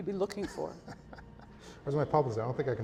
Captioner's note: laughs